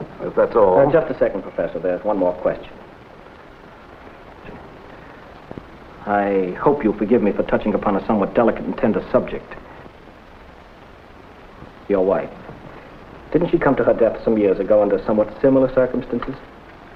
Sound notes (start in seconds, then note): none